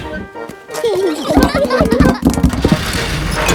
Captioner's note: children giggling